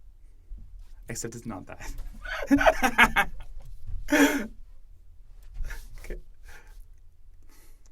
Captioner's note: laughter